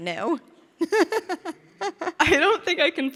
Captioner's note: interviewer chuckling